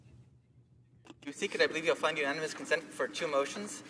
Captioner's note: speaking French